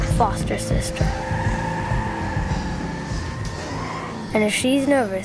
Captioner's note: tires screeching